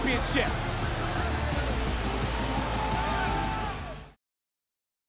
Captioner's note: audience cheers; upbeat music continues